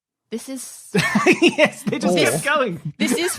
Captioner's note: laughs